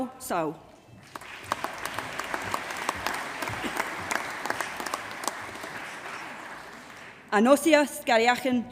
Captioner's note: applause